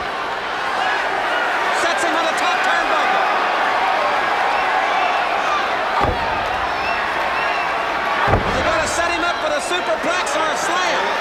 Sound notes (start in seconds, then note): 4.0 crowd clamoring; 5.2 blows thudding